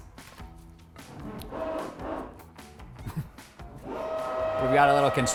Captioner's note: drill roaring